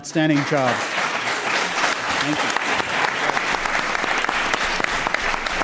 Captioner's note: applause